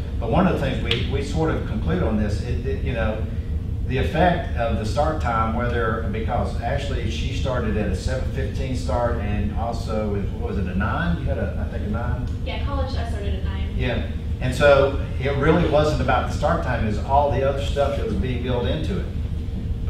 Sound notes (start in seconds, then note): 13.2 voiceover